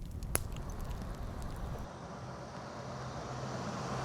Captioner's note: faint traffic